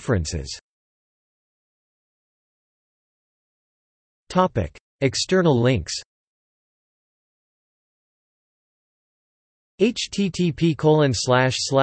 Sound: in Turkish

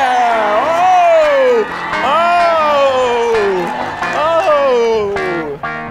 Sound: audience laughing

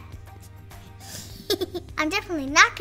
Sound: laughing

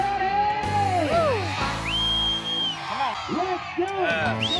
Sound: cheering, whistling; screaming, cheering

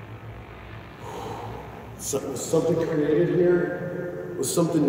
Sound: exhales

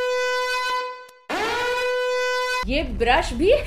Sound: angery buzzer noises

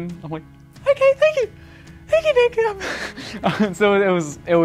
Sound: laughs

